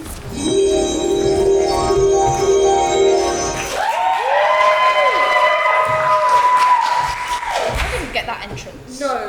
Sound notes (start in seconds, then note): 0.4 magical noise; 3.6 audience applauds